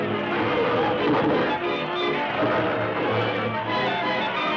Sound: roaring

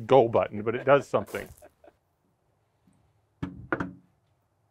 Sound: laughing

